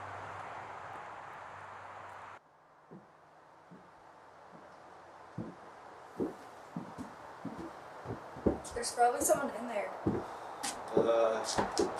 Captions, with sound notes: [FOOTSTEPS ECHOING] There's probably someone in there. Hello?